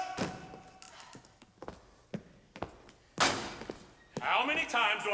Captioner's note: footsteps